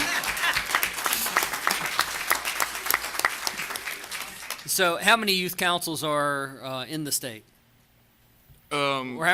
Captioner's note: laughter